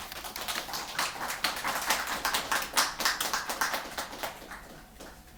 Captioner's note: applause